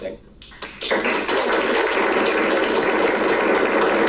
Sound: applause

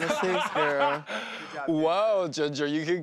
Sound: laughing

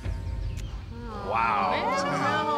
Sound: groans

